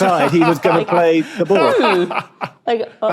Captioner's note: laughs heartily